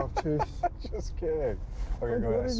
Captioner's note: laughing